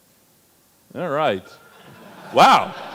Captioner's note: audience laughs